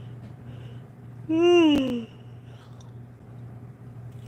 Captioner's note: yawns